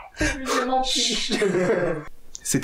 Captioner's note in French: Rires